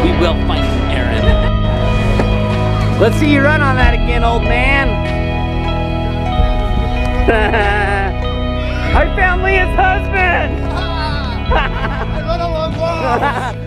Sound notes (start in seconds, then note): 6.4 soft music; 7.0 laughing